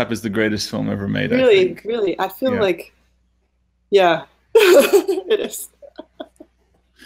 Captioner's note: laughing